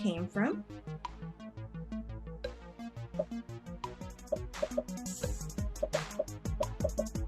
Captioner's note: upbeat music; popping